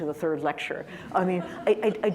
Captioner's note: attendees laughs